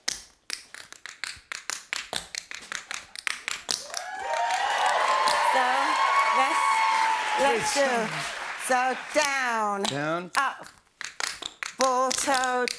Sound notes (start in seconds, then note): 0.2 tapping; 3.8 cheers and applause